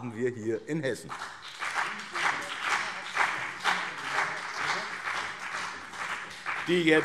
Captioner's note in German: Beifall BÜNDNIS 90/DIE GRÜNEN und CDU